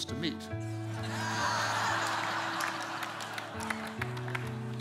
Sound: congregation laughing

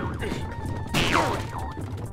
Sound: shouts; groans

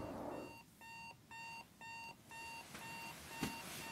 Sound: alarm beeping

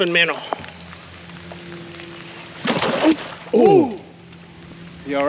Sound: fish splashing

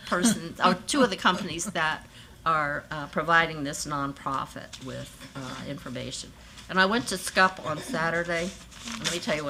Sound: laughter

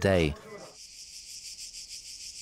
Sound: insects chirp

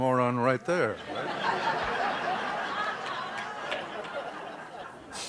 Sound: laughter

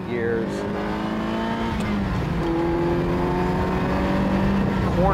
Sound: engine revving

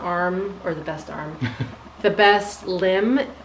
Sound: chuckles

